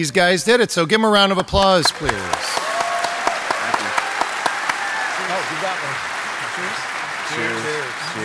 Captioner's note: applause